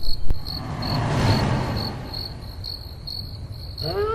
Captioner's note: whooshing